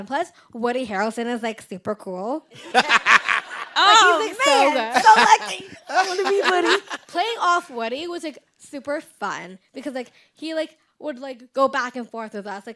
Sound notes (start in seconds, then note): 2.5 group laughing